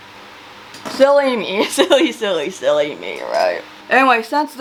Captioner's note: laughs